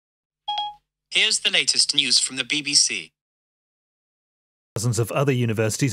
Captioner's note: beeping